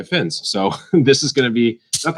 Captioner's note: laughs